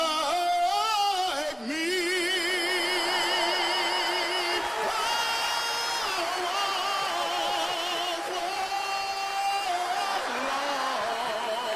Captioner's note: applause